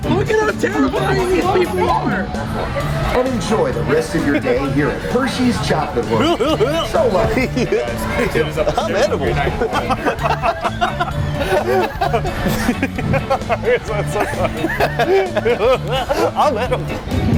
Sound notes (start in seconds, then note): 11.5 laugh; 14.6 laughs